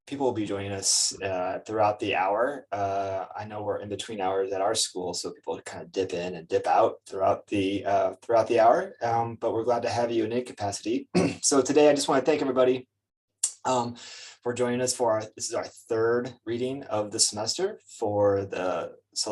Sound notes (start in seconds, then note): 11.1 clears throat; 13.4 lips smack